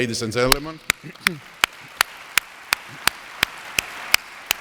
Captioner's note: audience applauds